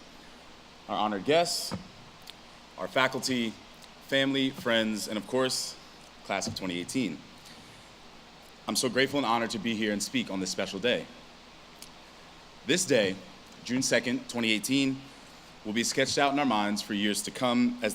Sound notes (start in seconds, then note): none